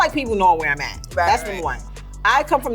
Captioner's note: laughing